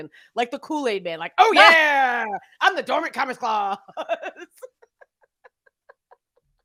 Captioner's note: laughs